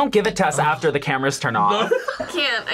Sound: laughs

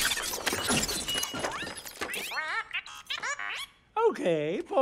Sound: beeping

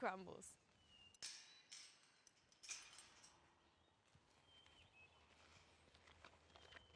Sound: birds chirping; chain rattling

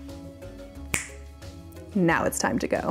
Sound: snaps

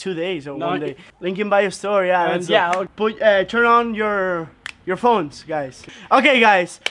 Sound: snaps fingers

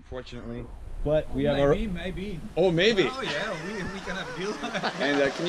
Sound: laughing

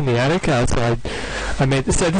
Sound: inhales loudly

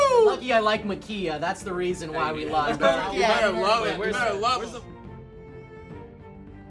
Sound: all chattering

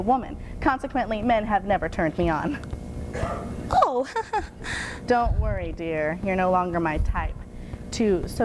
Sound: giggling

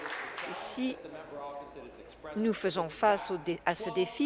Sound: applause

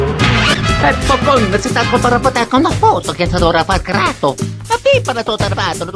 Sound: italian Gibberish

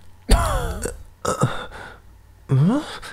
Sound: poof

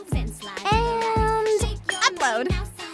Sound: chimes

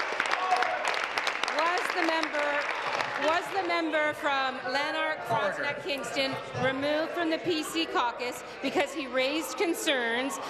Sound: some Applause

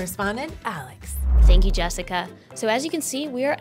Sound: air whooshing

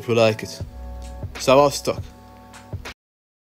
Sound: in Hungarian

